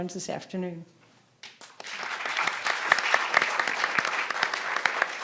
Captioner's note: audience applauding